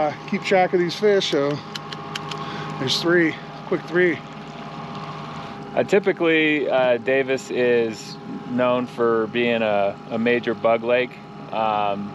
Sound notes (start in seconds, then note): 2.0 click, click, click